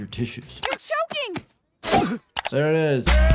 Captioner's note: Stewey coughs